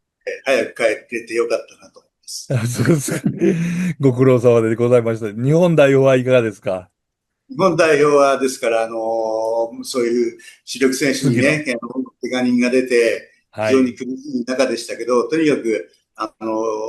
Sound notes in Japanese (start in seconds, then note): 2.4 笑い